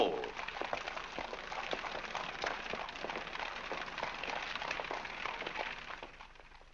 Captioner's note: hooves trotting